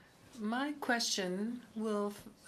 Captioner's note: speaking French